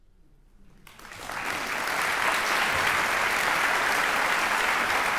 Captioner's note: audience applauding